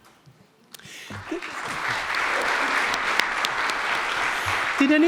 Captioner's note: audience clapping